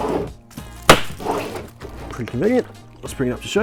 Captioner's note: lid slams